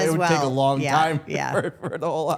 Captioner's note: Stephanie and Elyse laugh